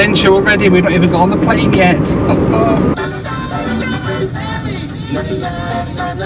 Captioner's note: laughs